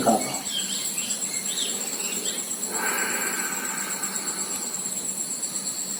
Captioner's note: breathing out